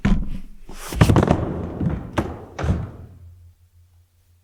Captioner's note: body thudding